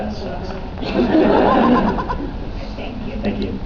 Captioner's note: laughs